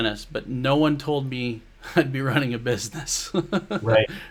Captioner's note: laughs